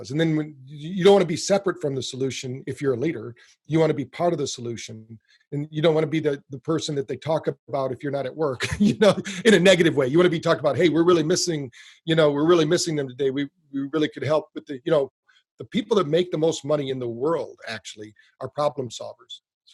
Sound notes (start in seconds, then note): 8.7 laughs